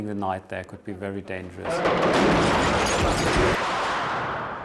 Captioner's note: explosions